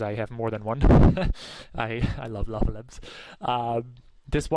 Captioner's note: chuckles